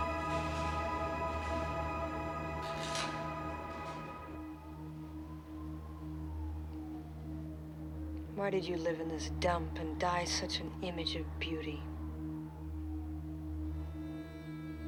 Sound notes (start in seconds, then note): 5.2 sirens wailing; 11.8 pensive music